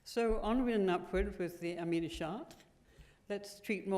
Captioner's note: french